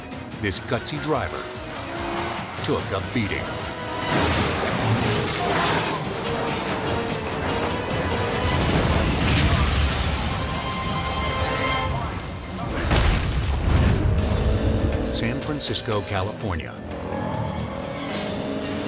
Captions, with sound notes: Instead, this gutsy driver took a beating. (car crashes) (suspenseful music) (logo slams) San Francisco, California.